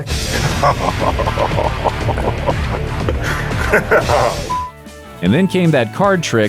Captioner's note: laughter and censored profanity